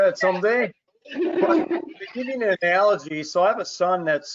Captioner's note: laughs